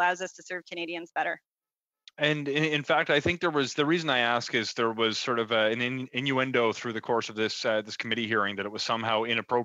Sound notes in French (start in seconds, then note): 1.8 voix de l'interprète